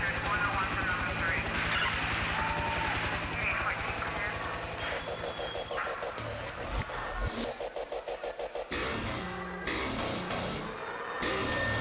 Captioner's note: radio sounds